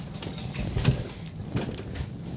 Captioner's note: rumble